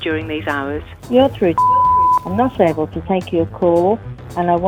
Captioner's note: beep